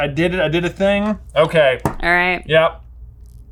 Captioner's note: marker thumps